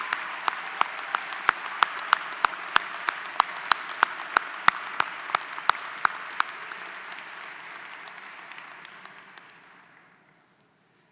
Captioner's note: applause